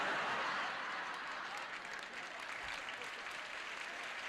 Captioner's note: laughter